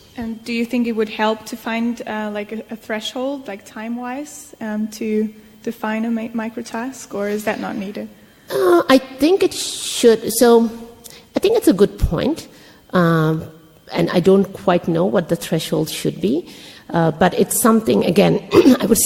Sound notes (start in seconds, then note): 8.5 clears throat